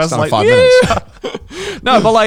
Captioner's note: mimics happy voices